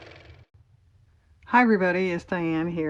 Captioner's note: car motor